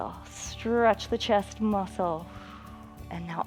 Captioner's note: exhales